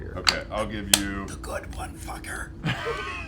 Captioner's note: hoarse